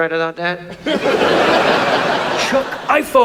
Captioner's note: audience laughs